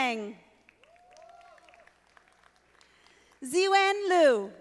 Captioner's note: audience applauding